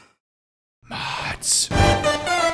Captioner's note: whispering